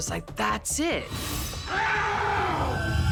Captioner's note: screaming